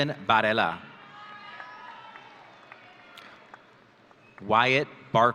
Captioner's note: audience cheering